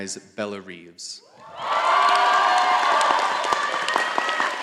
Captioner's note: all applauding